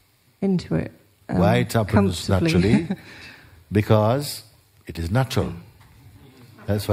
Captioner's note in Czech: smích